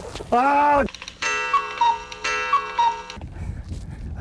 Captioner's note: cuckoo Clock sounds